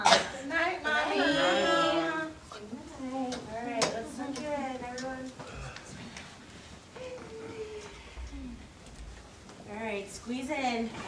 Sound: group response

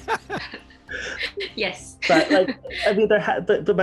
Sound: laughter

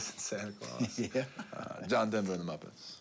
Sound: laughs

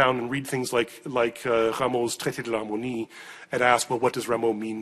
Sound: speaking foreign language

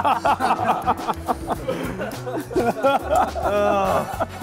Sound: laughter

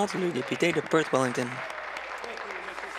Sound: applause

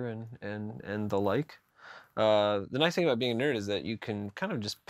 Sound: none

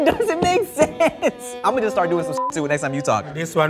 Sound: beep

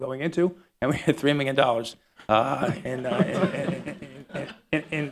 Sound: laughter

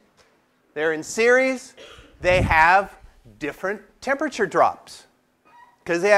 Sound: cough

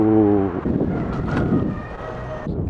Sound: rooster crows

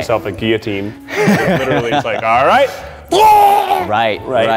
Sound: imitating gagging

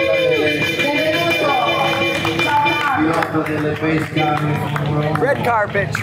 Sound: applause; speaking foreign language

